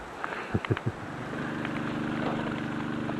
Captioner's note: laughter